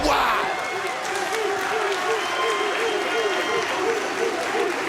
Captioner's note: crowd barking